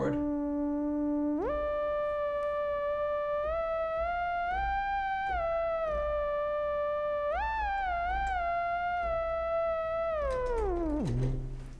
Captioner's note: fake Theremin Sounds